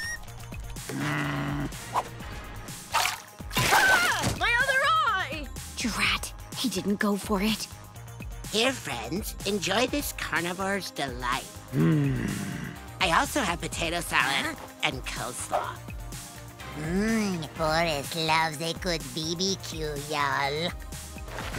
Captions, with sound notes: [screaming] My other eye! Drat, he didn't go for it. Here, friends, enjoy this carnivore's delight. [groaning] I also have potato salad and coleslaw. Hmm, Boris loves a good BBQ, y'all.